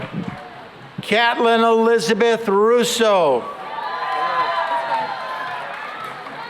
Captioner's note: cheering and applause